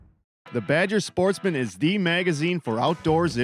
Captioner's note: voiceover